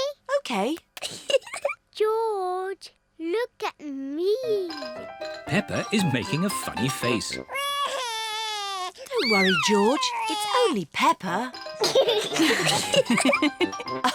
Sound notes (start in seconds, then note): 1.2 giggles; 7.5 cries; 12.1 all laugh